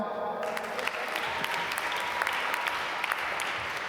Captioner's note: applause